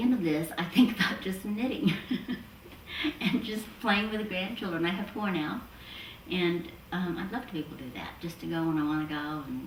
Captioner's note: laughs